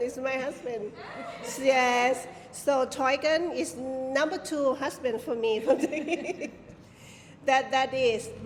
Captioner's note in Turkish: kahkaha